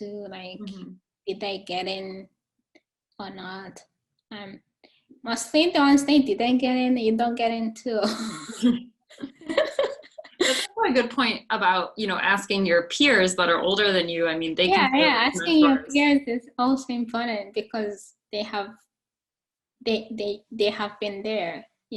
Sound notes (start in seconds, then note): 9.2 both laughing